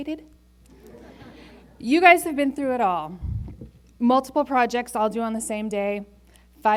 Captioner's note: laughter